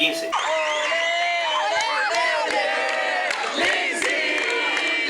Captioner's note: olé chants